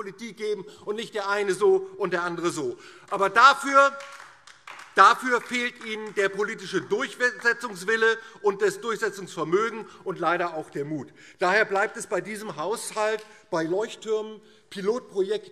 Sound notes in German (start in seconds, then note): 2.9 Beifall DIE LINKE